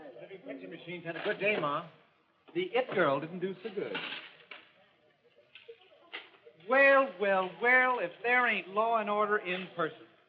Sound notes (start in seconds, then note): 3.9 change clinks